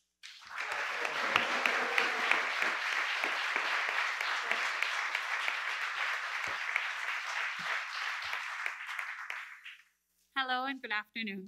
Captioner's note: applause